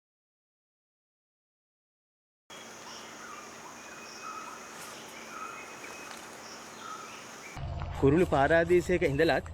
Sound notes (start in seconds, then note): 2.5 Sri Lanka rainforest bird sounds